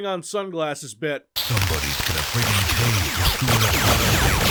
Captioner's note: gunfire